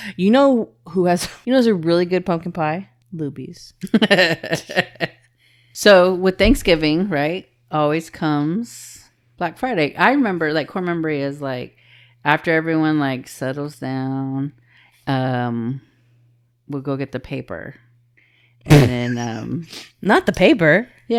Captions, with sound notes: You know who has, you know there's a really good pumpkin pie? Lubies. (laughing) So with Thanksgiving, right? Always comes Black Friday. I remember like core memory is like after everyone like settles down, we'll go get the paper. And then not the paper.